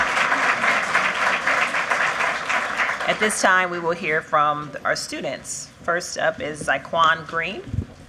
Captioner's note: applause